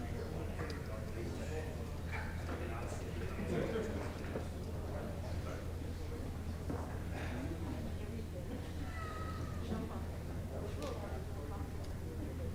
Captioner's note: indistinct chatter